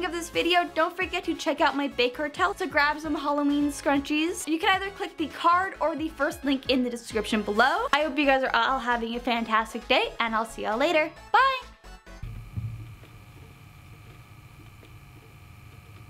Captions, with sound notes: of this video, don't forget to check out my Big Cartel. So grab some Halloween scrunchies. You can either click the card or the first link in the description below. I hope you guys are all having a fantastic day and I'll see y'all later. Bye! (record player hums)